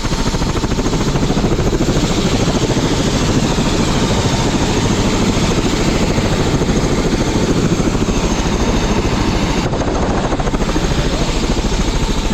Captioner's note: helicopter sound